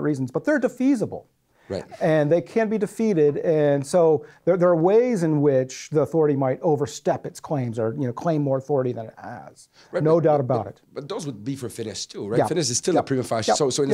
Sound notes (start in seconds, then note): 11.1 voiceover